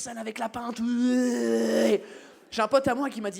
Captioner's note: english noise